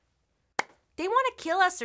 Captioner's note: claps